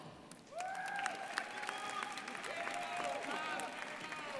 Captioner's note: crowd applauding